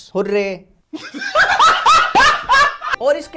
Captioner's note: laughs